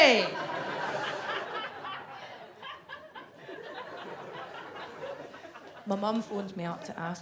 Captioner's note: audience laughs